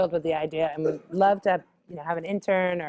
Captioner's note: cough